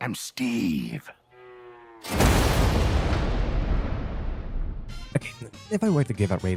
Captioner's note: resounding thunder sound effect